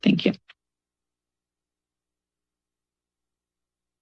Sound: silence

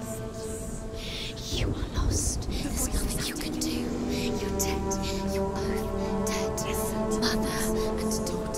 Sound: whisper

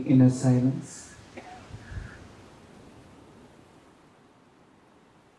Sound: noise from the ocean and croaking of ravens

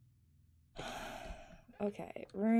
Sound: sighs

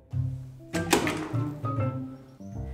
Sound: door opening

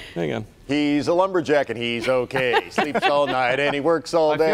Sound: laughter

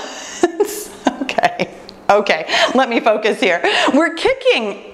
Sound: laughs

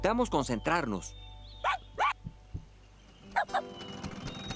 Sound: barking

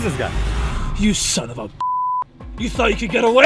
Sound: beep

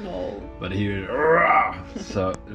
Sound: roars

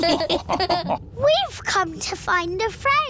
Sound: all laughing

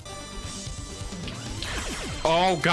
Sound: pew pew pew

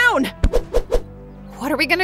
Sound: air whooshes

